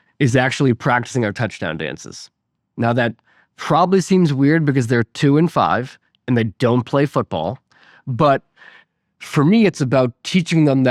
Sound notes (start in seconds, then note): none